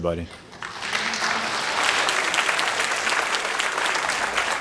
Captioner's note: applause